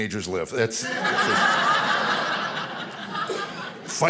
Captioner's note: audience laughing